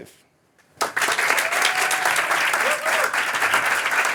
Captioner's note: applause